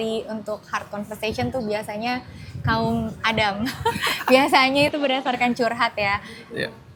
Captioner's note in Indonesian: tertawa